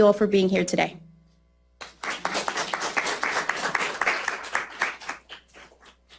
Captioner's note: applause